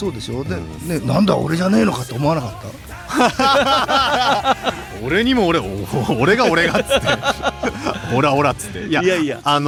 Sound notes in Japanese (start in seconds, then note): 2.5 笑い